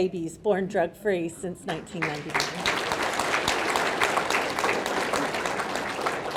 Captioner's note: audience clapping